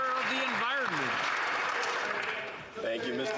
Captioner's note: some Applause